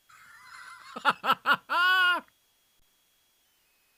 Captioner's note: laughs